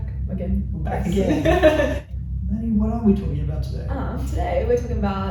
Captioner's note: laughs